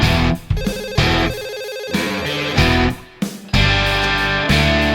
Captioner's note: phone ringing